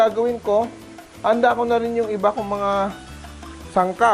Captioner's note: sizzle